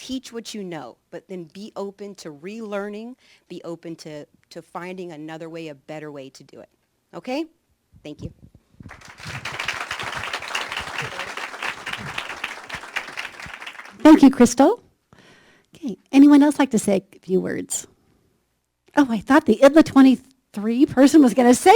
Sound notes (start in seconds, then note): 8.8 applause